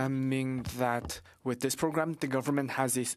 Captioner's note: speaking French